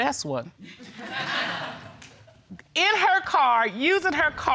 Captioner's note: audience laughs